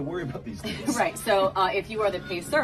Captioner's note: both chuckle